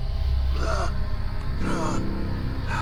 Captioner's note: Roy groaning in pain